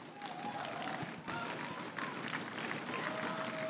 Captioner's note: crowd cheering and applauding